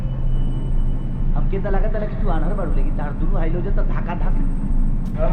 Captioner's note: bhojpuri dialogues playing on screen